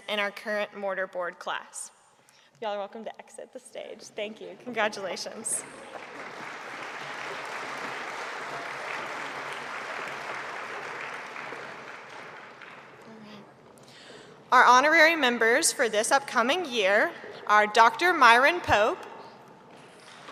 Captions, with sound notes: in our current Mortar Board class. You all are welcome to exit the stage. Thank you, congratulations. (audience applauding) All right, our honorary members for this upcoming year are Dr. Myron Pope.